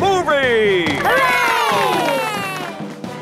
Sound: heroic music; applause

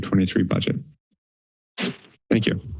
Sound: pause

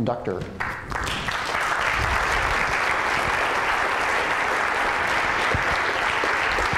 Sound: applause

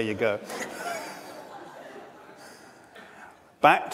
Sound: audience laughs

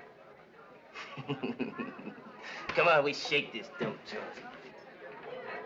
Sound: CHUCKLINGs

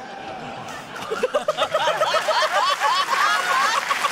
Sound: laughter, applause

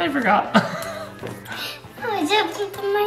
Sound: laughs

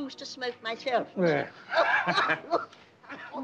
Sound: coughs

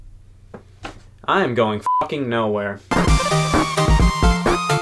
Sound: thump; beep; electronic music

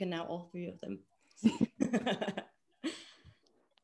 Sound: all chuckle

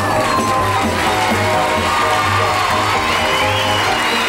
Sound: audience cheers

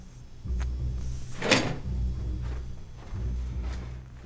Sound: wig thudding

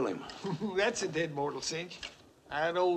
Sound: chuckles

